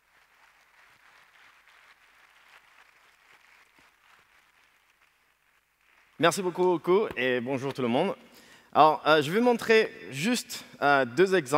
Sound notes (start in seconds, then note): 0.0 applause; 7.1 speaking french